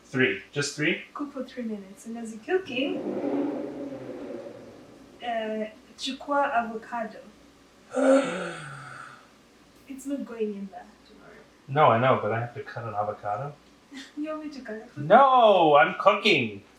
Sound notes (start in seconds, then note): 8.0 gasp